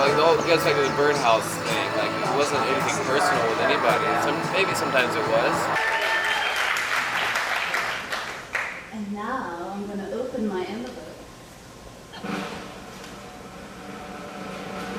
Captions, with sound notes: You know, just like the Birdhouse thing. It wasn't anything personal with anybody, maybe sometimes it was. (applause) - And now, I'm gonna open my envelope. (drumroll)